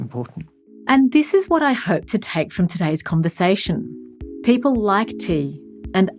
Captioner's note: voiceover